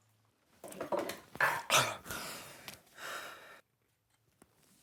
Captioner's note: Max groaning